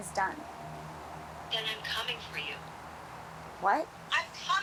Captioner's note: on phone